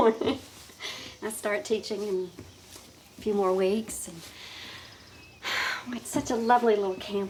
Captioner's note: sighing